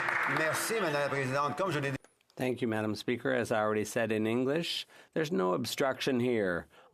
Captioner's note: some Applause